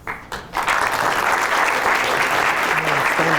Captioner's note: applause